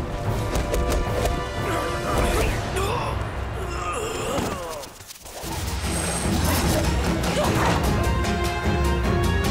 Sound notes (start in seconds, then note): 3.5 groaning